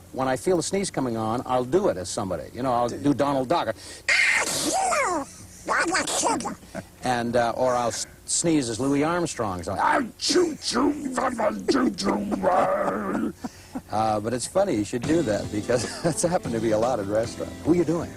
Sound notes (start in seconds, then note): 5.2 mimics Donald Duck; 10.6 mimics Louie Armstrong; 12.6 laughter